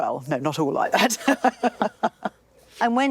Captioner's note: both laugh